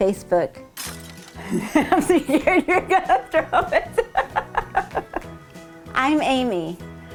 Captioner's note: laughing